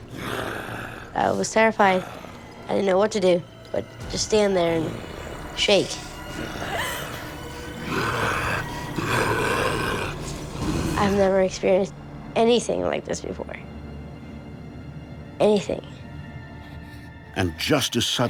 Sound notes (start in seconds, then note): 5.4 snarling and growling